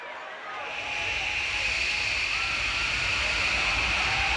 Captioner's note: wind howls